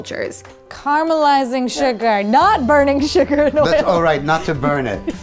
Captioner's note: laughs